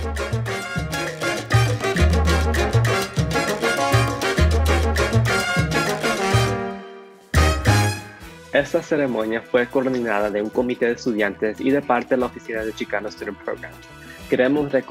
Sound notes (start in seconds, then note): 8.5 speaks in foreign language